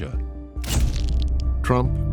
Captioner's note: flash bulb pops